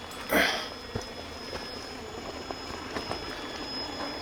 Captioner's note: grunting